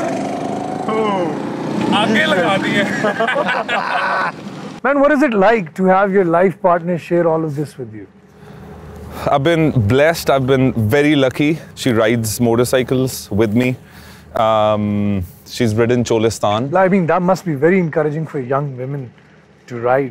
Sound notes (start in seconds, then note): 1.9 laughs